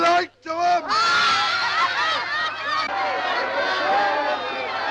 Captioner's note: crowd laughing